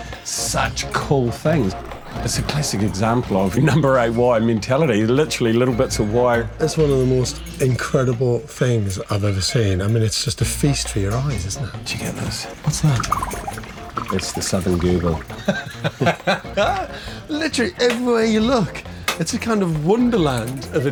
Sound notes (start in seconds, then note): 13.3 bubbling sound; 15.2 laughter